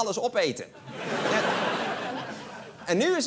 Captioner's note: laughter